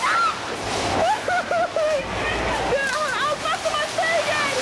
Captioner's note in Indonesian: suara kepanikan